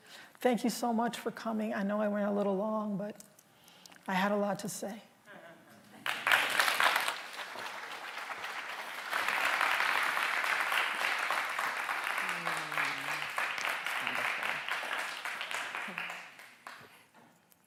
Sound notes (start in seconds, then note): 6.0 applause